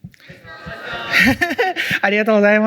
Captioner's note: laughs